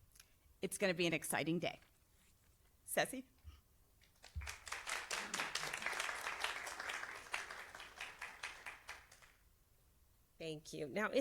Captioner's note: applause